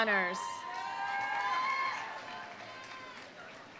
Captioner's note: audience cheering; audience applauding